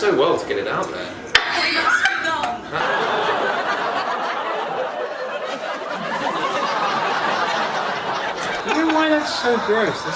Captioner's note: laughs